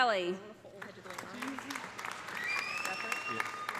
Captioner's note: audience applauding; audience cheering